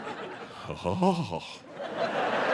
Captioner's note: audience laughing